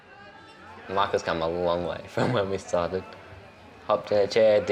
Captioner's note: laughs